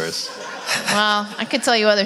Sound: audience laugh

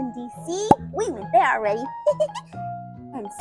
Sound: laughs

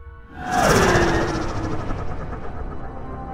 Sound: nyoom

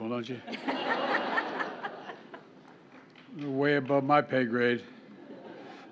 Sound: laughter

